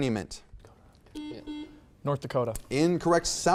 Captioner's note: buzzer beeps